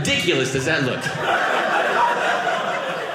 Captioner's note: audience laughing